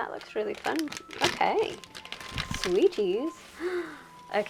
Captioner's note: gasp